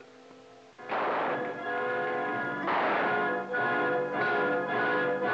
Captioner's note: guns blasting; dramatic music